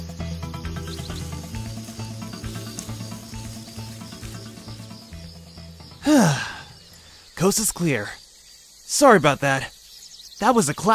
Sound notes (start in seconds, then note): 0.7 foliage rustling; 3.9 music fades out; 6.0 sigh of relief